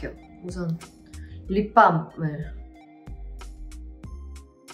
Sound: speaking in Korean

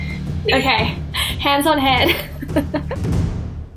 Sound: laughing

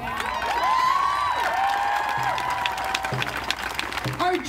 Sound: audience cheering

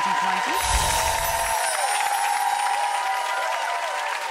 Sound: audience cheering

